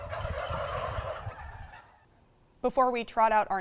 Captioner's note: turkeys clucking